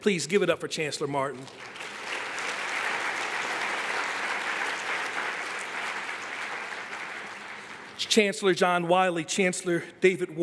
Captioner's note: applause